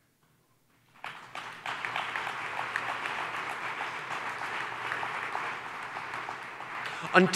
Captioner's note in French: Applaudissements